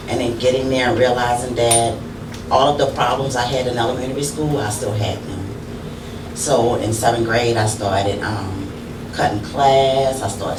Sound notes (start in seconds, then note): none